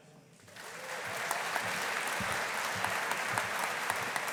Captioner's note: audience applauding